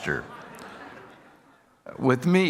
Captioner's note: audience laughing